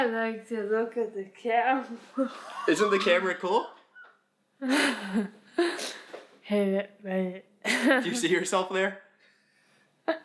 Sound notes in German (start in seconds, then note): 4.6 lacht; 7.9 lacht